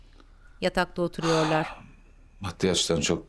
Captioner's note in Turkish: İç çekme sesi